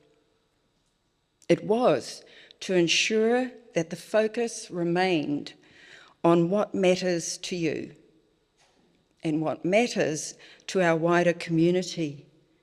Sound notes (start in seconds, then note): none